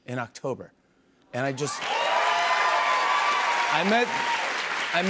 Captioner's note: cheers and applause